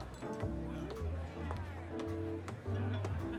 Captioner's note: background chatter